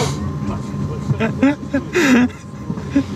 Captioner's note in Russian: смех за кадром